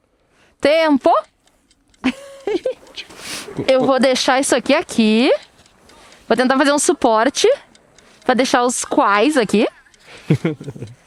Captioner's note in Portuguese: risadas